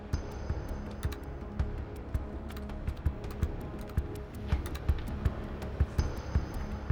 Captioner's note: typing